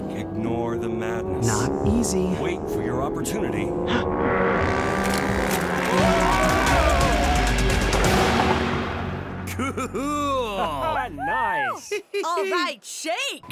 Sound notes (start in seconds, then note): 4.2 gasping